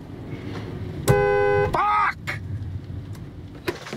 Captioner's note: honking